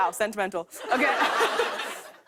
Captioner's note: laughter